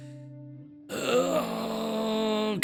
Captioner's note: groans